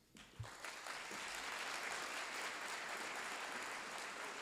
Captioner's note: applause